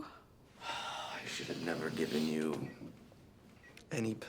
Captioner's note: sighs